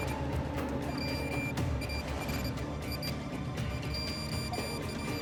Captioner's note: metal detector beeping